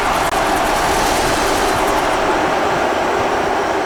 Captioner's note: gunfire, auto-axe whirs, flesh-ripping, screaming